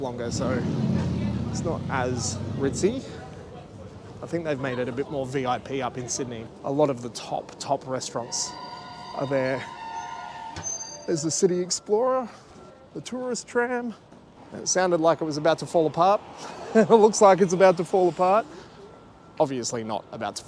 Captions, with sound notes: longer, so it's not as ritzy. I think they've made it a bit more VIP up in Sydney. A lot of the top, top restaurants are there. (Brakes squealing). There's the City Explorer, the tourist tram. It sounded like it was about to fall apart. It looks like it's about to fall apart. Obviously not about